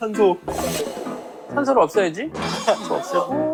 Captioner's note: terrified